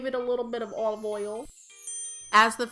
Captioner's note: chimes ding